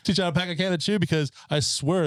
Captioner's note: laughing